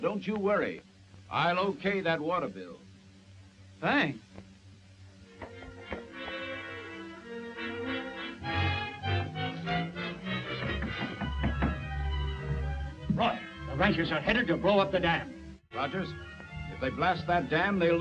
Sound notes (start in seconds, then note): 6.1 dramatic orchestral music; 10.6 hand knocking on door